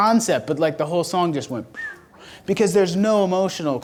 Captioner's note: whistles